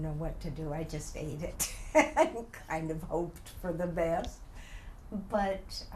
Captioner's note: laughs